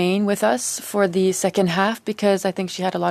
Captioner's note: speaking French